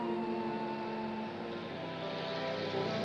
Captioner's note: vehicle Approaches